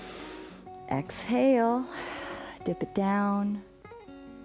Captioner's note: exhales